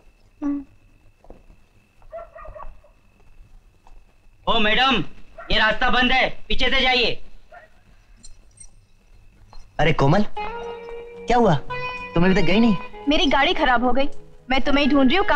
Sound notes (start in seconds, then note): 2.1 dog Barking; 8.1 keys Jingling